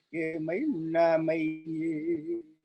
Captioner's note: chanting